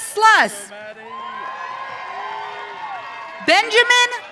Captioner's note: audience cheering